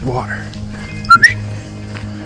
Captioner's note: whistle